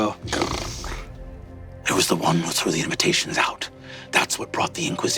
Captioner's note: snarls